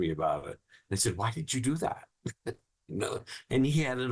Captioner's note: laughing